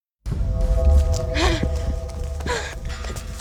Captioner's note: panting